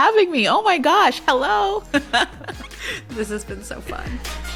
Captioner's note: laughs